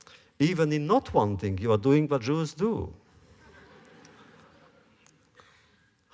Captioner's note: laughter